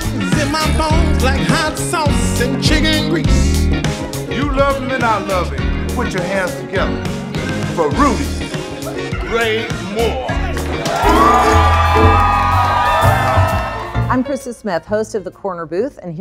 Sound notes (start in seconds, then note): 10.3 cheering